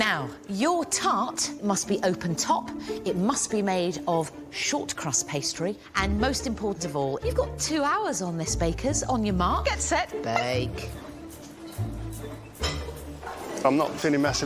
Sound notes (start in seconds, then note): none